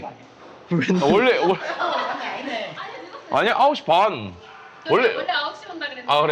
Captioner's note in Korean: 웃음